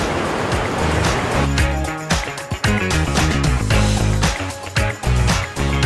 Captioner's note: river running